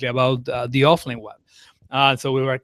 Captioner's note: none